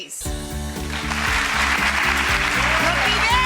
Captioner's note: applause